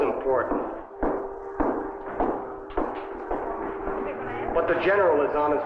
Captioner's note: footsteps tapping